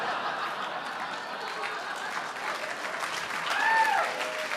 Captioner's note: audience laughing; audience clapping